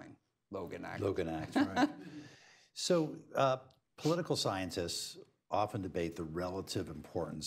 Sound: laughter

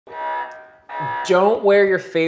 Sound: alarm blaring

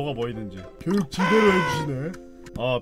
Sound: yawn

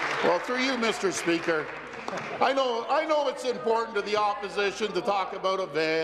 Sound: applause

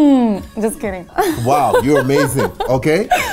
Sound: laughing

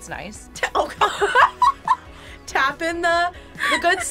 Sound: both laugh

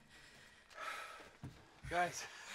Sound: sighing

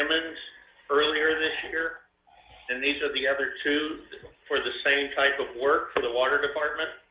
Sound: audio distortion

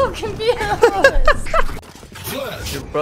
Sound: laughing

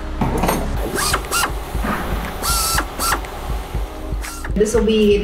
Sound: Cleco machine running

